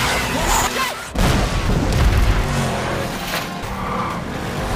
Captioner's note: explosion